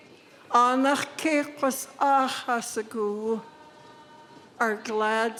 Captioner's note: speaking in Lingít